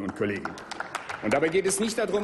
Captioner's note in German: Applaus